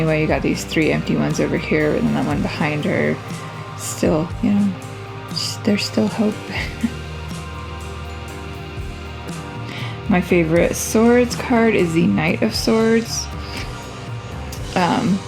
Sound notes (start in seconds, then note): 6.4 laugh